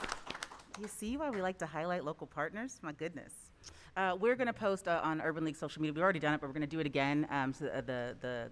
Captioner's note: applause